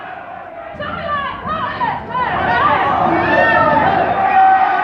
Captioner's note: angry crowd chants